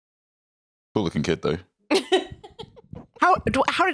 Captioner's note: laughs